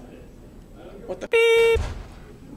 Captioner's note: beep